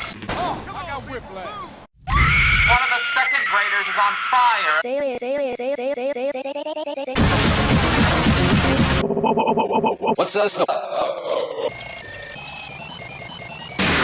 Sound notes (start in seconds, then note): 2.0 fire, screaming SFX; 4.7 stuttering; 9.0 more "whoa" stuttering; 11.7 Tickety Tock's ringing varying in pitch; 13.7 distorted vibrato lowering in pitch